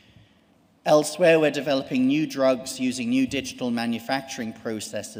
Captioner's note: none